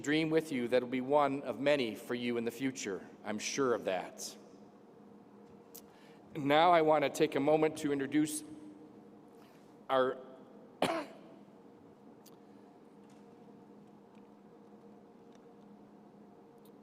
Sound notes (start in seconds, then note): 10.8 cough